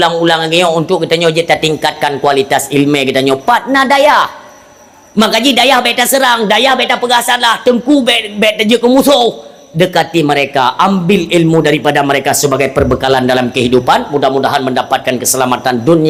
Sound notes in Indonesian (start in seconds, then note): none